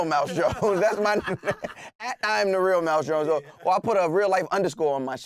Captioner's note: laughing